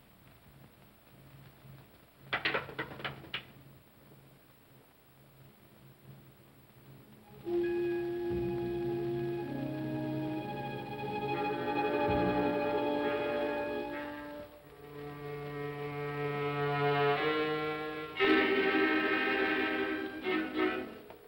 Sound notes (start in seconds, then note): 2.2 cane clatters; 7.3 ominous music